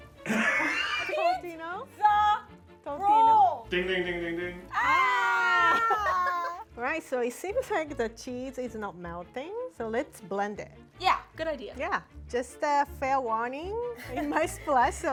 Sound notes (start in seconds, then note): 0.2 director laughs; 4.7 both cheering